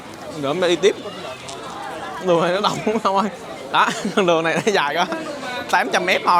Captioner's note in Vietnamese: tiếng cười